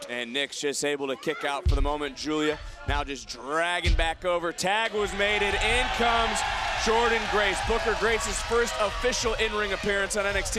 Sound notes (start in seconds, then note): 4.6 crowd cheering